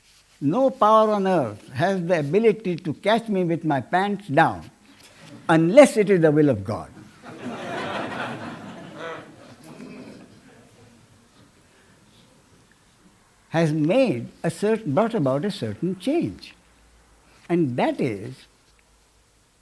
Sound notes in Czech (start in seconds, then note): 11.6 smích